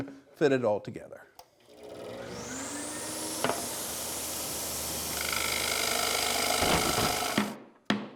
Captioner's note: machine whirring